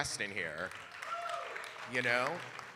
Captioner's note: audience cheering and applauding